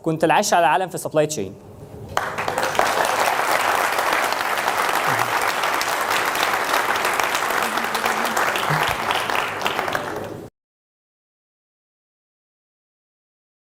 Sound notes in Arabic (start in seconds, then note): 2.1 تصفيق الجمهور